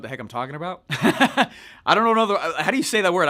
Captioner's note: laughing